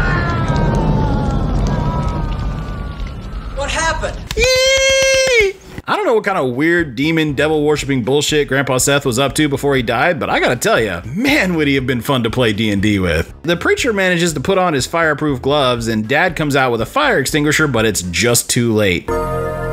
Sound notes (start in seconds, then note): 3.6 happy john sounds